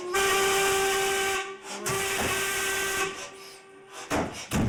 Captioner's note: horn blaring